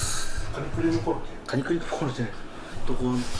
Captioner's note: laughs